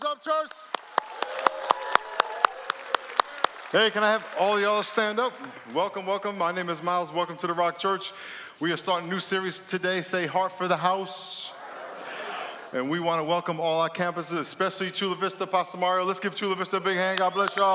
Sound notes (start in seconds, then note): 0.0 applause; 1.9 cheering and Applause